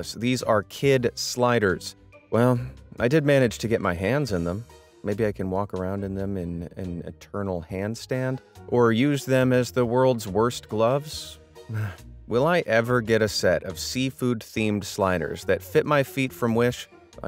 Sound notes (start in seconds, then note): 11.6 narrator sighs